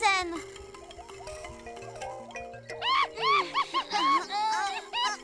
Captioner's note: straining